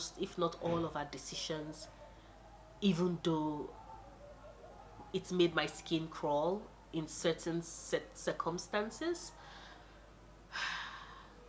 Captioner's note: sigh